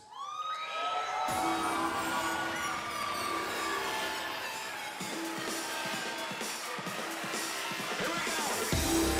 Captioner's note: cheers & applause